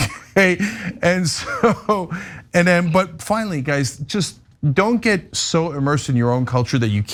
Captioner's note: laugh